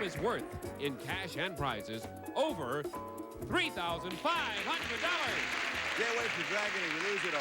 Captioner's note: audience applauding